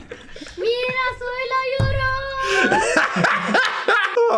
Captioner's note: Dan and Phil laugh; child yelling; Dan laughs